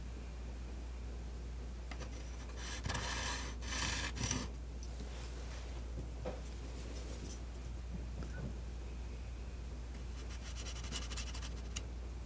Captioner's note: metal scraping